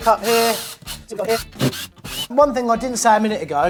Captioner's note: power drill revving